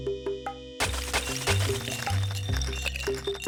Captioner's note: ice clinking